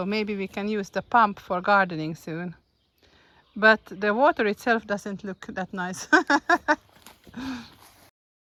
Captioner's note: laughing